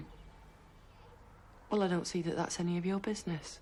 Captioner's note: none